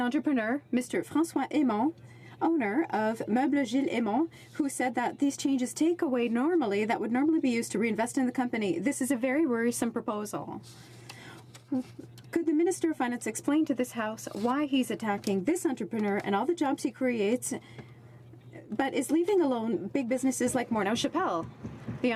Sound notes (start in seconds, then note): 7.1 speaking French